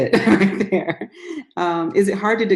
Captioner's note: laughter